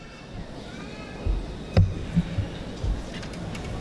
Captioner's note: audience chatter